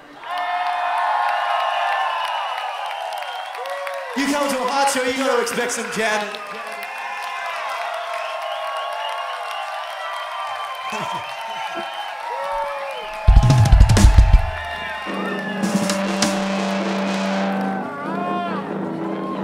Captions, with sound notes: (audience cheers) You come to "Harts" show, you gotta expect some jamming. (audience cheers)